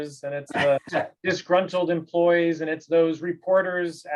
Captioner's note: laugh